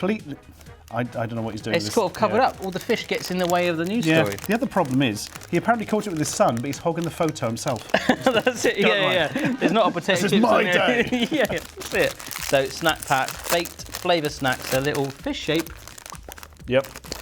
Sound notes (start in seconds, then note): 7.8 laughing